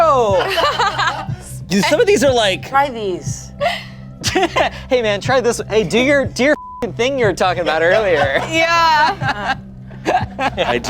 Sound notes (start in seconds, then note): 0.4 everyone laughs; 6.5 beep; 9.4 laughs